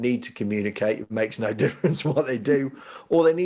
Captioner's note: laughing